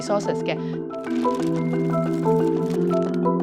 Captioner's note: pages flipping